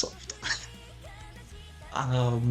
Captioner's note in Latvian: nervozi smiekli